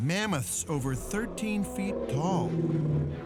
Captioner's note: mammoth grunting